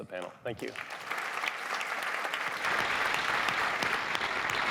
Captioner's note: applause